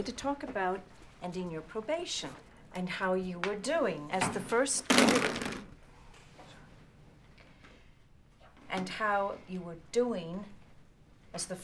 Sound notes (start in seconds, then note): 4.9 phones thuds